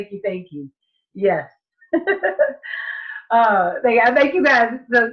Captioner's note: laughs